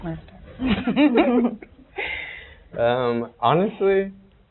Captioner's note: murmuring and laughing